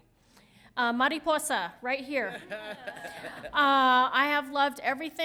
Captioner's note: laughs